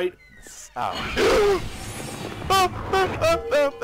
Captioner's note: surprised